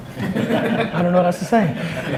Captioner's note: laughs